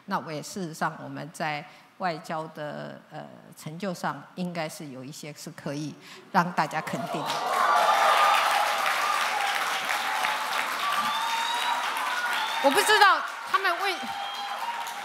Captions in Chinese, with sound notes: 事實上，我們在外交的成就上 應該是有一些是可以讓大家肯定 (歡呼) 我不知道 他們會...